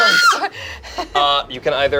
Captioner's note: screams